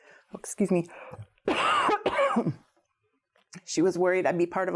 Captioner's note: coughs